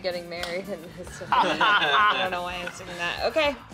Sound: laughing

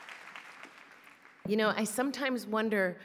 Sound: applause

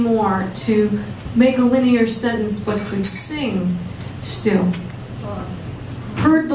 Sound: audience sigh

